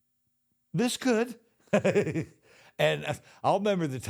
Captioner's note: The Undertaker giggles; chuckles